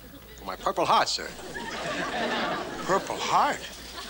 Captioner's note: audience laughs